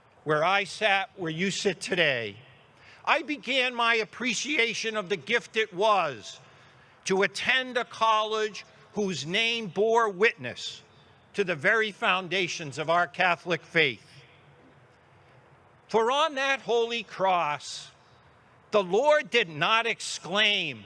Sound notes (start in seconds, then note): none